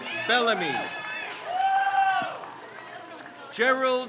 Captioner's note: crowd cheers